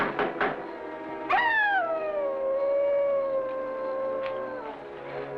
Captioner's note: dog howling